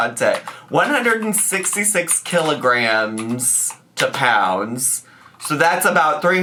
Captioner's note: keyboard tapping